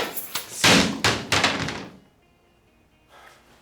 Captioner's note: sled banging